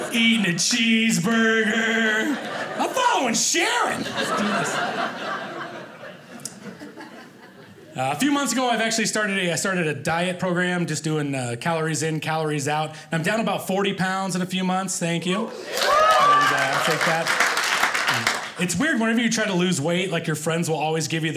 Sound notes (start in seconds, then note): 4.9 audience laughing; 15.5 audience applauding